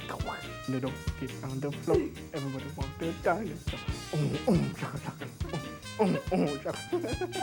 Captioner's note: laughs